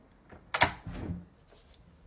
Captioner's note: door opening